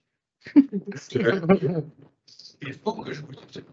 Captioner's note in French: rires